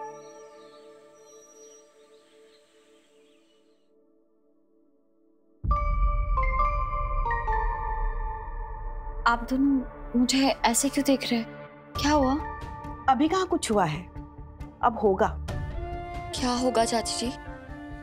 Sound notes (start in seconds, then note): 0.1 birds chirping; 5.5 pensive music playing